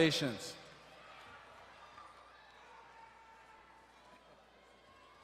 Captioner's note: audience quietly talking